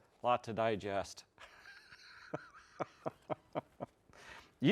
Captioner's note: laughs